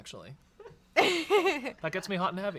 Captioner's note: laughs